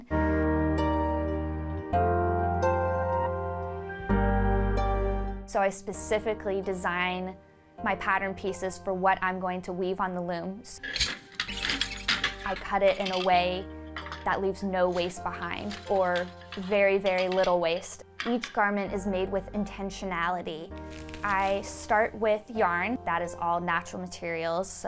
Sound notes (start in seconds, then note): 0.2 calm music; 10.8 loom squeaks; 10.9 parts rattle